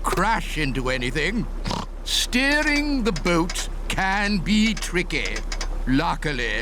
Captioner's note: oinks